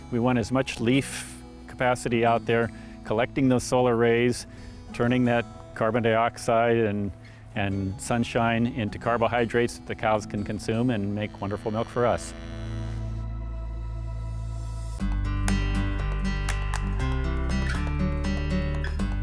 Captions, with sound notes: we want as much leaf capacity out there collecting those solar rays, turning that carbon dioxide and sunshine into carbohydrates that the cows can consume, and make wonderful milk for us. (cow moos) (gentle guitar music)